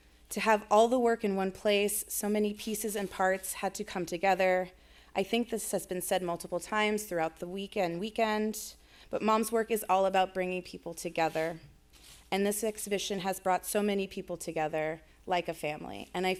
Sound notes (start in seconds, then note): none